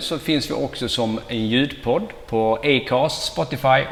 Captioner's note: swedish only